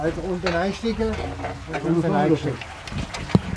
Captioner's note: murmuring